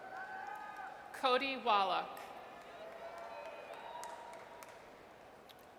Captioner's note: audience cheers; audience cheers